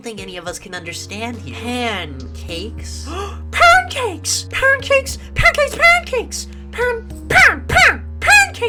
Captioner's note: gasps